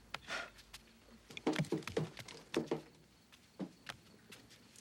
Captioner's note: things clatter